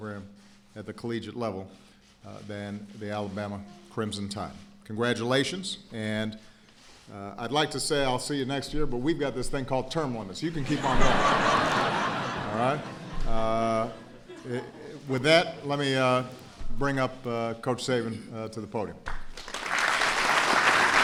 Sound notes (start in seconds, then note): 10.6 laughter